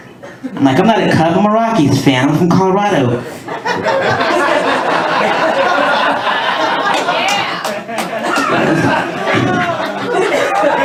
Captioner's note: laughter, cheers and applause